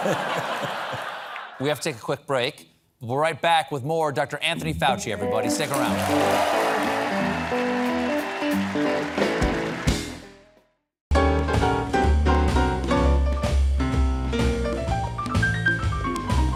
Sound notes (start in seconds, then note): 9.4 applause